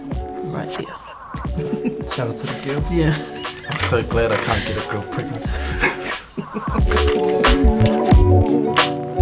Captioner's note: laughs